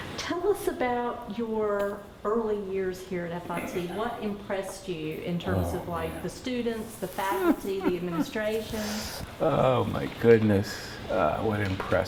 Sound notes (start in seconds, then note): 7.0 laughs